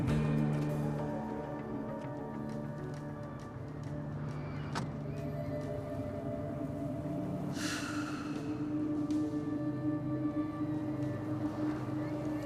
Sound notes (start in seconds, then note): 1.5 taut music; 7.6 sighs; 9.2 tense music